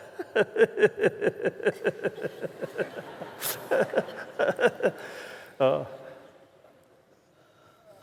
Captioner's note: laughter